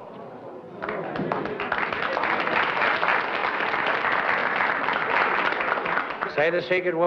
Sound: applause

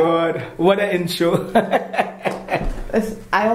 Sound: laugh

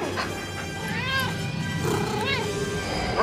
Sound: panting; meowing

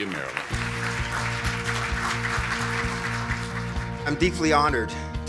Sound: audience applauds; upbeat music

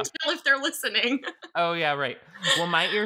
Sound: laughing

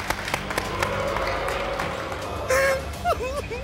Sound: audience booing

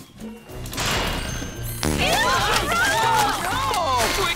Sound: shouting

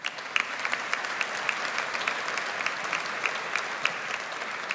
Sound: audience applauds

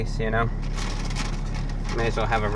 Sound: bag rattles

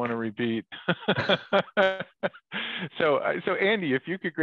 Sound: laughs

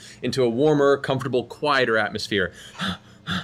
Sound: panting

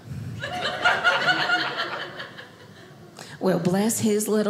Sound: audience laughing

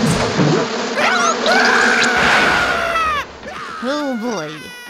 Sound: bees buzzing; scream

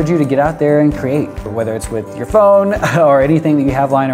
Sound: chuckles

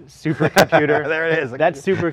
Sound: laughs

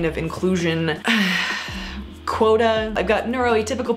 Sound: sighs in exasperation

